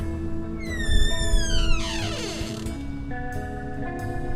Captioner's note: door creaking